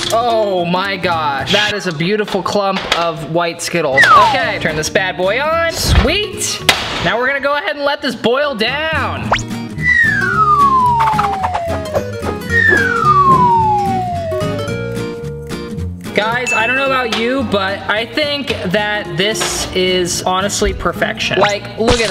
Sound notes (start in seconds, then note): 9.4 cheerful music; 9.8 slide whistle whistling